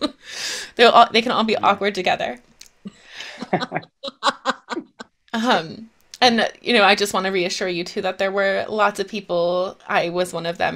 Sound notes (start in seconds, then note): 3.2 laughing